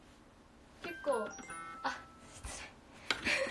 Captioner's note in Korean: 띠링